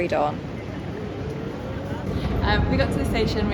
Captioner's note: background chatter